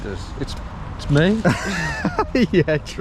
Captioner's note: group laughs